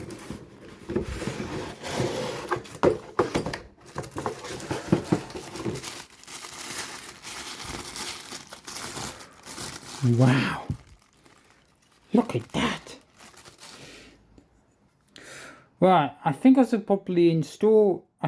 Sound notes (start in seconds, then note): 6.3 tissue paper rustling